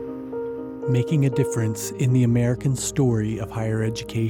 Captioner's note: voiceover